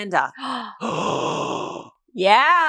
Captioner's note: gasps